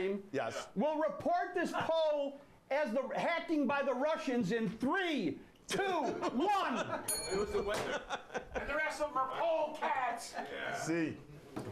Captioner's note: bell rings